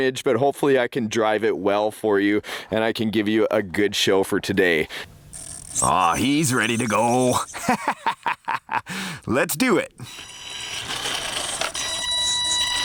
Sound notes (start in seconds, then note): 7.3 laughing